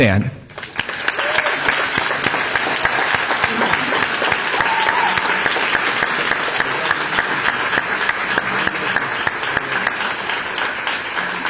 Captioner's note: applause